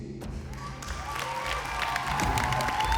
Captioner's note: whooping, applause